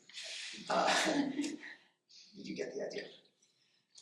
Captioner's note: audience laughing